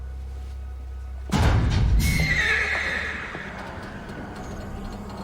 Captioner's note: metal clanks; horse neighs